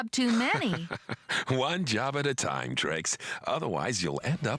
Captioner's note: chuckling